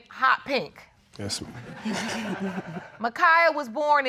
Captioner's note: audience laughs